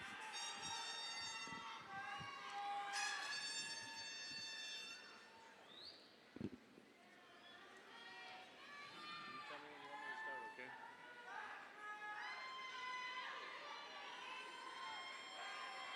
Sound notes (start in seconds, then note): 0.6 air horn blasts; 0.6 audience cheers; 12.1 audience cheers